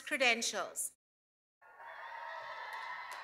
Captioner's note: cheers and applause